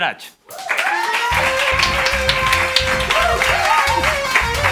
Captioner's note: applause